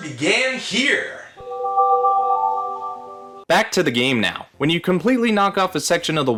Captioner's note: Wii startup sound